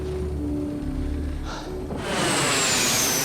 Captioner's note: sighs; plane whooshing